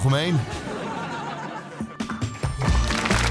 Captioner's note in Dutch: applaus